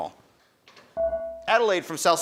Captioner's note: buzzer dings